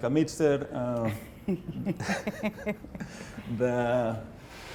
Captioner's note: laughing